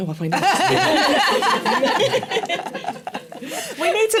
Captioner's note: laughter